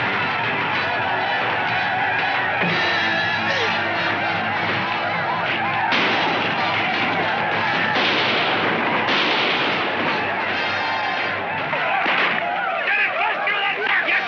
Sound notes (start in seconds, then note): 5.6 gunshot firing